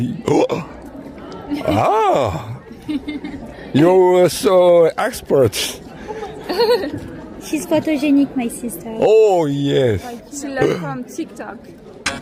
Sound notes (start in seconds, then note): 6.0 laughs 😂